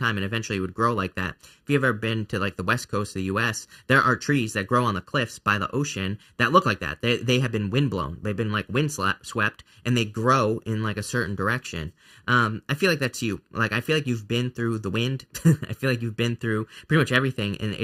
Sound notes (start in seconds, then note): 15.4 laughs